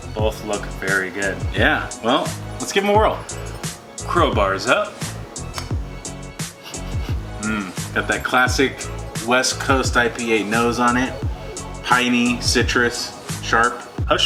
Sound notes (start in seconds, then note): 6.0 sniffs